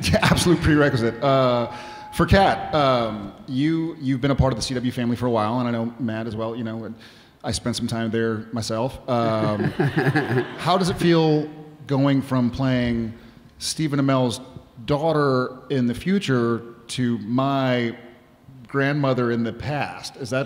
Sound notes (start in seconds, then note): 9.2 laughing